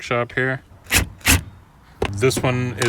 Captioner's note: drill whirring